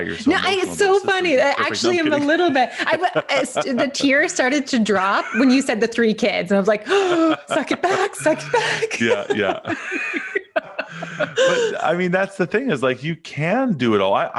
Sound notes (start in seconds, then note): 3.1 laughing; 6.9 chuckles; 7.8 gasps; 9.7 both laughing